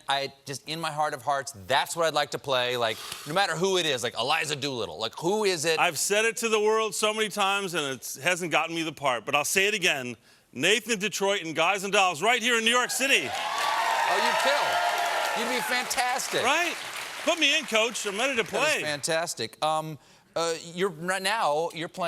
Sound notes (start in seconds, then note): 15.5 cheers and applause